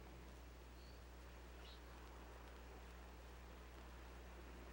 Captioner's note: birds chirping